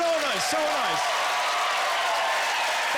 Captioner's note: cheering